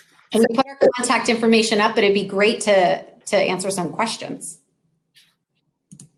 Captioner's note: technical glitch